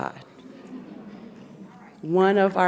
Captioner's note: audience laughs